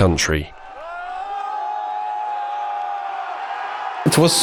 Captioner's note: crowd cheering